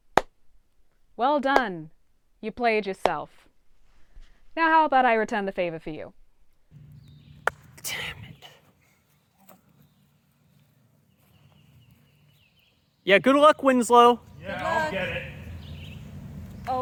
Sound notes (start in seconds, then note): 0.4 claps; 7.4 ball knocking